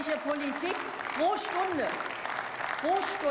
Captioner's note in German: Beifall